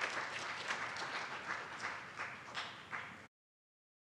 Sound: audience applauds

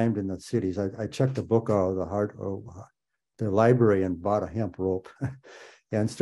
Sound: laughs

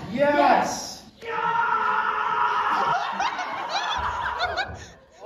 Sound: enraged screaming

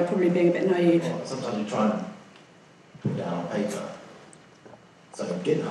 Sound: voiceover

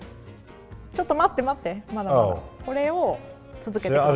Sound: speaks in foreign language

